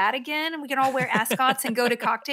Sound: laughs

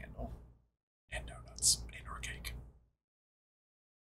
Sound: whispering

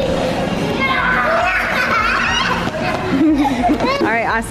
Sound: children shout and laugh

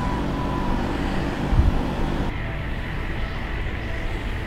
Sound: wind blowing

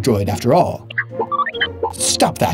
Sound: R2-D2 giggling noises

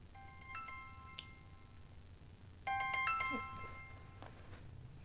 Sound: phone ringing

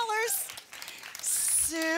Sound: audience applause

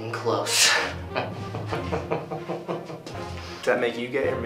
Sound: laughter

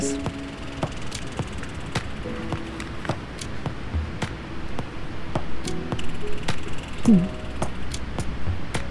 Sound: sound of squirrel chattering

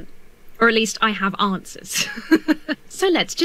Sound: laughs

